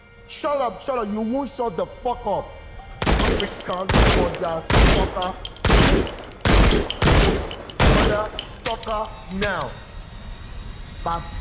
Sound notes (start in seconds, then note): 6.4 gun firing consecutively; 9.3 gun clicking